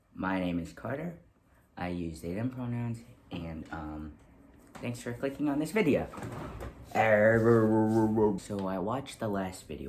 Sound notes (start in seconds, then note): 7.1 mouth noises